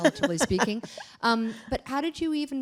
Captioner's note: laughter